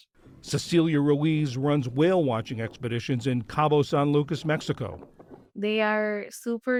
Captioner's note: voice-over